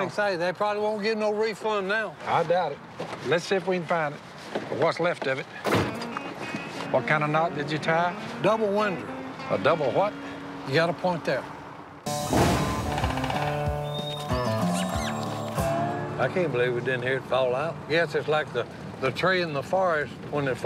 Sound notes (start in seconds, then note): 12.5 clacking; 12.8 chittering